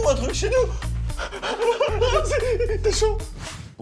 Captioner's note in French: bruit de joie